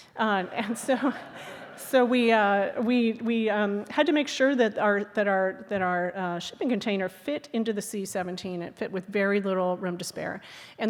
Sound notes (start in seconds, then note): 0.2 audience laughing